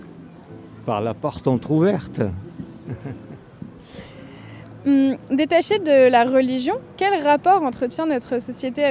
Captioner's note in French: rires